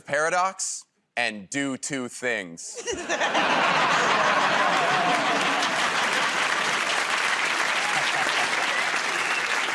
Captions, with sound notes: creative recursive paradox and do two things. [ Laughter ] [ Applause ]